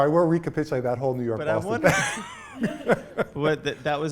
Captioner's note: laughs